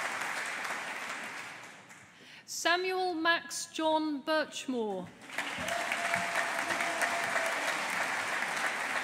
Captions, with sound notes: Samuel Max John Burchmore. (AUDIENCE APPLAUDING)